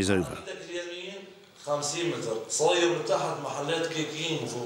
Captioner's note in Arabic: الصوت المنطوق باللغة العربية